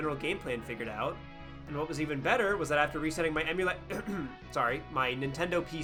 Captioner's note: ahem